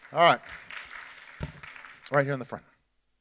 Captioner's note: audience applauding